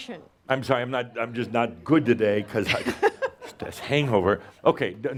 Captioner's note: she giggles